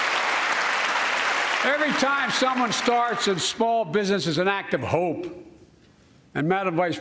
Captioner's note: cheers and applause